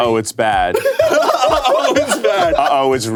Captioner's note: everyone laughs